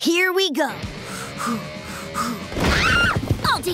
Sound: heavy breathing

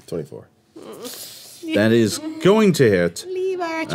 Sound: groans

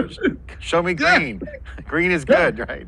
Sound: laughing

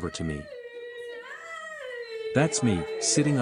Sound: crying

